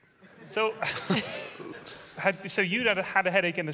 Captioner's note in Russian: смех